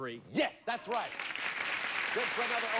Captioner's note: audience applauding